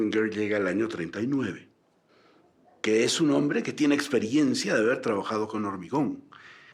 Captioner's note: speaking in foreign language